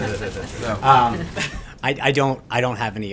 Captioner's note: laughter